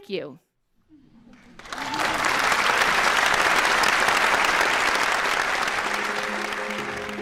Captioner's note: applause